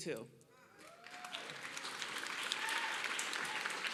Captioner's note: applause